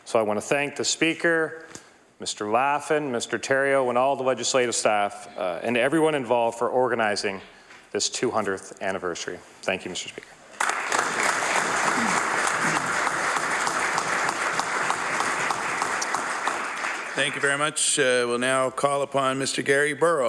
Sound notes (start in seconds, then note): 10.5 applause